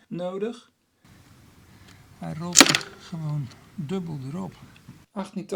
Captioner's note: chain and sprockets